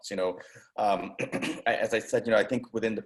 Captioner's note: clears throat